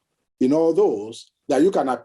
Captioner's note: none